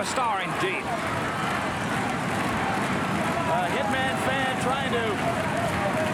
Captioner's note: applause